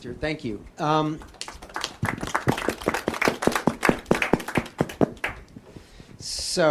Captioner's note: applause